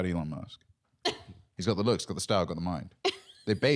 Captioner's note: laughing